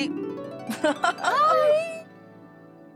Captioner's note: Sonal laughing